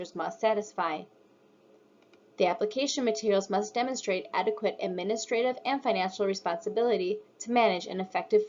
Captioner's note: click